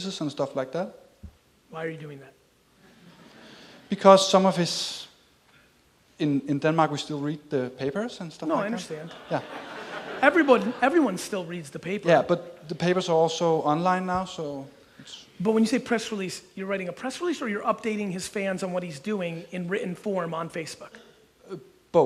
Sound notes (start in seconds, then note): 3.0 audience chuckles; 8.6 audience laughs